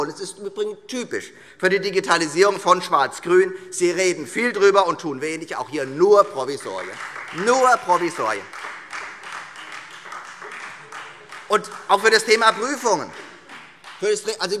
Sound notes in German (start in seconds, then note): 5.6 Beifall Freie Demokraten